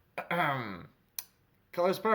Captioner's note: ahem